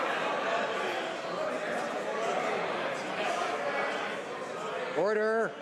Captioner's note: some Applause